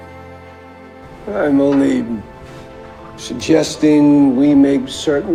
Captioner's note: voiceover